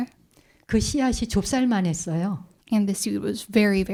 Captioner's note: speaking in Korean